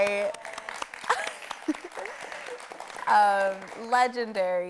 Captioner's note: audience applauding